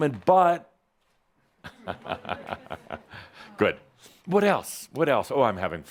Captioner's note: chuckles